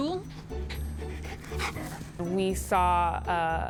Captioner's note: panting